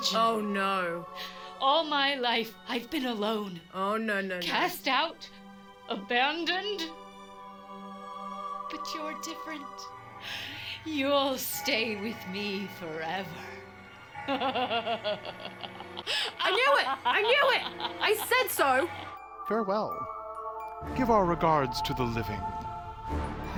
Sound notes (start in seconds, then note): 14.1 laughs